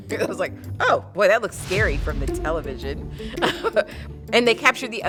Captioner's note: laughs